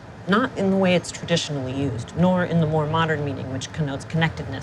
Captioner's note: none